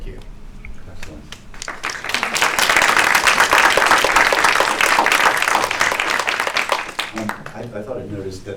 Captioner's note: applause